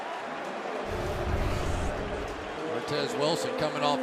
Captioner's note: announcer on pa